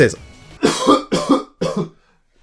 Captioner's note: coughs